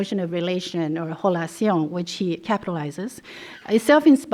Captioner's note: non-english